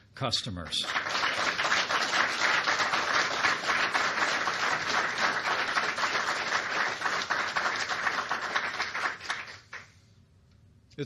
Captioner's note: applause